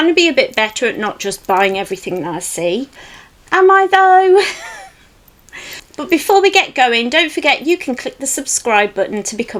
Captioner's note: giggles